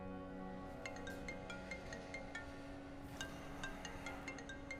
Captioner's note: phone rings